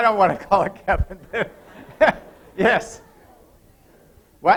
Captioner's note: laughter